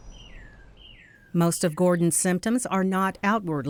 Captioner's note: voiceover